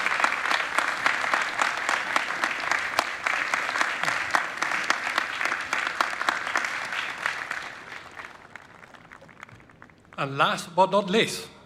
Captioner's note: applause